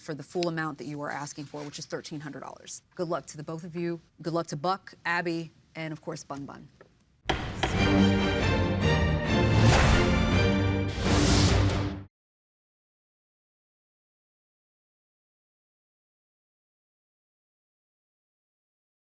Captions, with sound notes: for the full amount that you are asking for, which is $1,300. Good luck to the both of you. Good luck to Buck, Abby, and of course, Bun Bun. [gavel bangs]